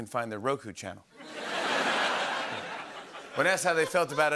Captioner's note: laughter